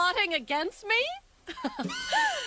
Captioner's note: laughing